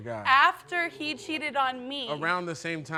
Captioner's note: audience exclaiming